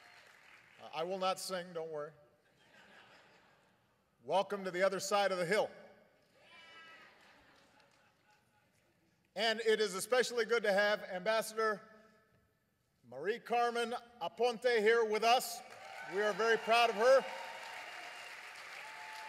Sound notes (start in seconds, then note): 0.0 applause; 2.4 laughter; 18.6 applause